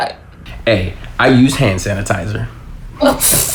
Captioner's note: chuckles